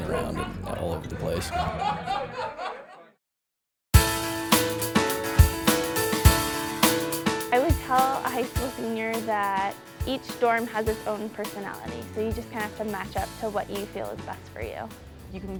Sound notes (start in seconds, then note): 1.5 laughter